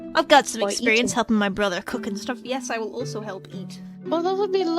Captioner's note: none